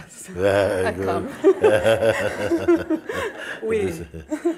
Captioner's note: smiech